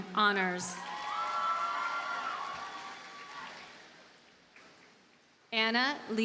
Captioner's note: audience cheers and applauds